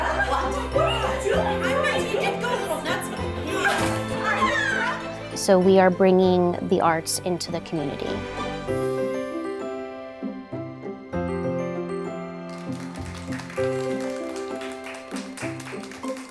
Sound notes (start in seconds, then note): 3.3 all laughing; 8.6 bright music; 12.4 audience clapping